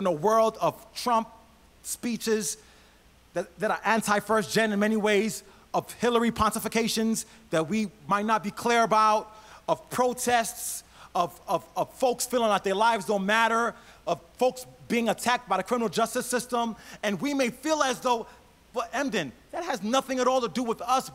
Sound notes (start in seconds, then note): none